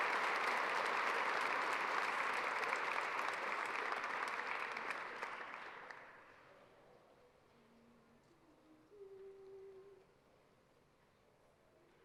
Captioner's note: applause